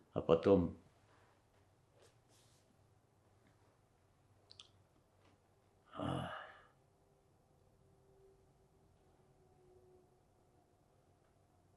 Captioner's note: pauses 12 seconds